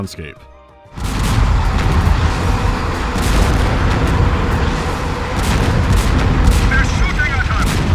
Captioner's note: deep, punchy cannon and artillery fire, howling of rockets